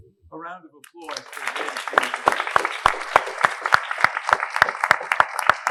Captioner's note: audience clapping